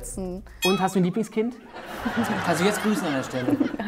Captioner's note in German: Lachen